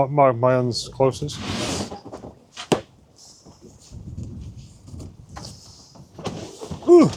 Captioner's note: laughing